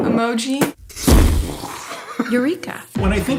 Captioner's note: mimicking explosions